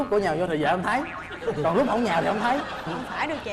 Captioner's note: laughing